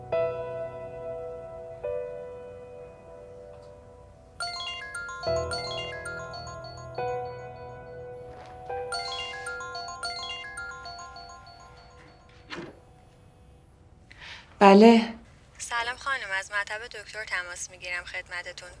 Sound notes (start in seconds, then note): 4.4 mobile ringing